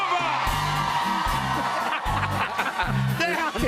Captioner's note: laughter